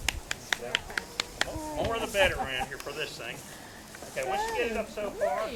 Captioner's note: applause